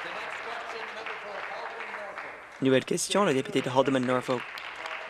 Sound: applause

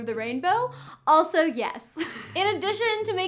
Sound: chuckles

